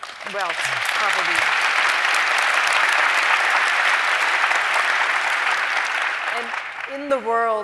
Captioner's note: applause